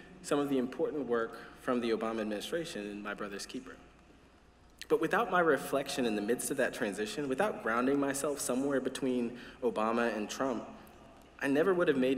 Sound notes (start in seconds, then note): none